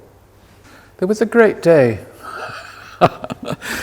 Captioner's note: laughs